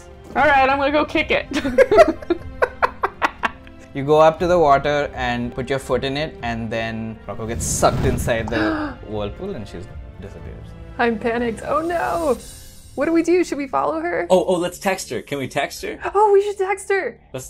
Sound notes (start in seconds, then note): 1.5 laughter; 8.5 gasp